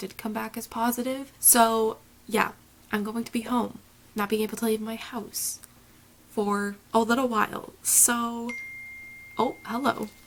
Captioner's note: phone ding